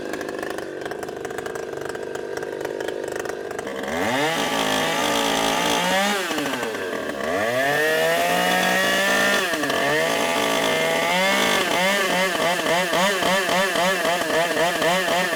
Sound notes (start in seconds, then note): 11.0 saw buzzing